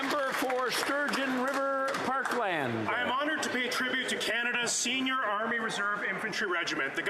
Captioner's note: some Applause